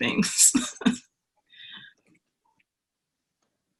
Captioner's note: laughs